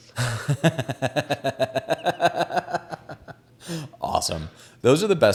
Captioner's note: laughs